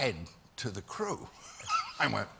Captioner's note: laughter